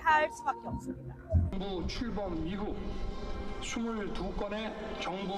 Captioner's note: Korean